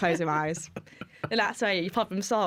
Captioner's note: laughter